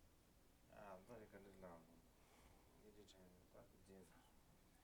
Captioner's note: non-english speech